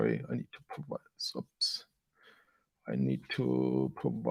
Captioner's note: mumbling to self